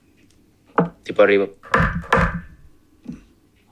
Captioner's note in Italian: bussa sul bancone